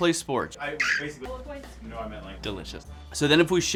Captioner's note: straw squeaks